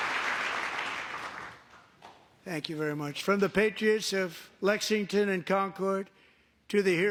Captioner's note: applause